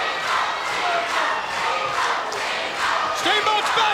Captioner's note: crowd cheering